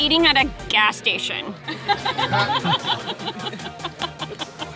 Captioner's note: laughing